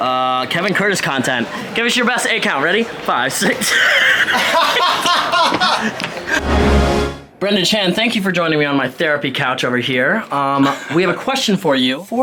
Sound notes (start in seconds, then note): 3.4 laughs; 3.5 all laugh